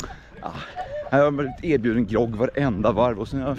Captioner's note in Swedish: skratt